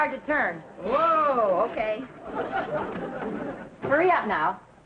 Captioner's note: audience laughing